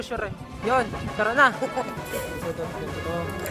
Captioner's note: laughs